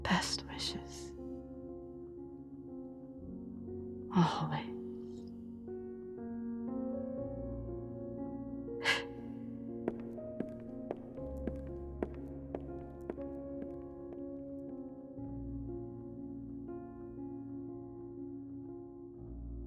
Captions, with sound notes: Best wishes, always. [footsteps walking out]